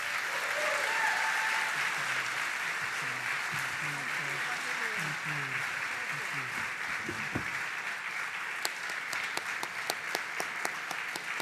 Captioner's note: applause